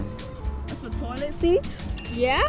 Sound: ding

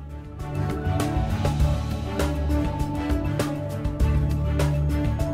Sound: drill whirring

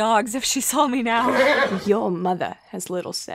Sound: neighs

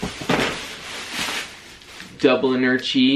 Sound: plastic crinkling

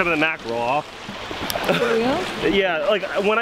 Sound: laughing

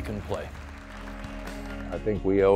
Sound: audience applauding

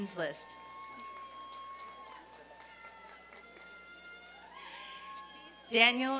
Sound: applause and cheering

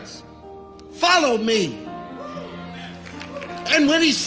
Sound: congregation cheering

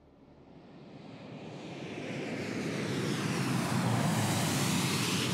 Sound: plane engines whining

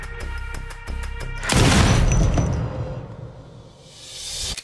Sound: gun shot

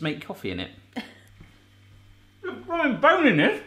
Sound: laughs

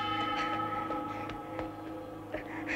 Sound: buzzing hum

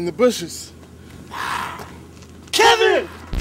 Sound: zombie growling

